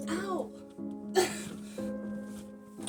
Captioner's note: whimper